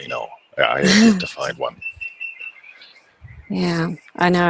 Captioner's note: laughs